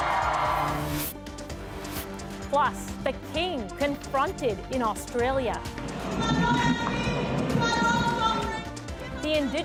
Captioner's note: cheers and applause